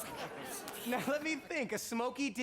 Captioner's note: charley mutters